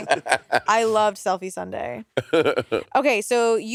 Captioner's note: Monét laughing